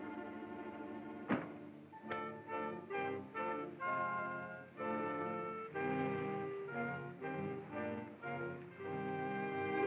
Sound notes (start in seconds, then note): 0.0 ominous music; 1.3 door bangs & light switch clicks; 3.4 ominous music